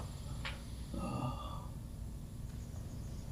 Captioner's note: Bolo groaning; crickets chirping